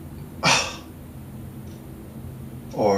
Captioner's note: sighs shortly